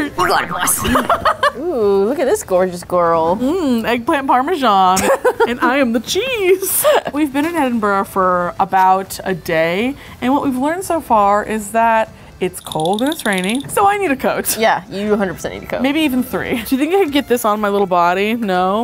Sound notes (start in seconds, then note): 0.2 laughing